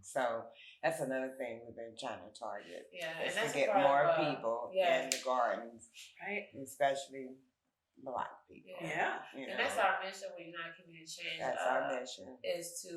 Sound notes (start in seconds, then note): 4.3 speaking faintly